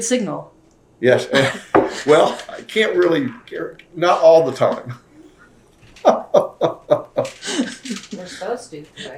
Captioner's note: laughs